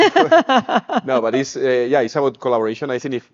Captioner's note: laughs